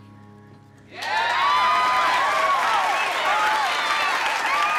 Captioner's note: crowd clapping and cheering